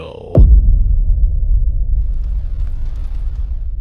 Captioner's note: boom!